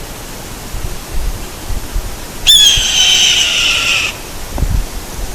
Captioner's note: hawk call